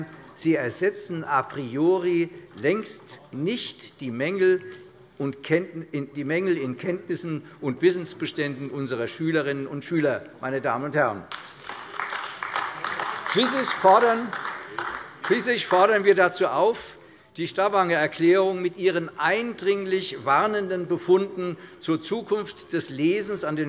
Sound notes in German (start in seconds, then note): 11.2 Beifall AfD